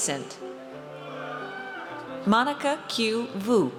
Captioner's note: audience cheers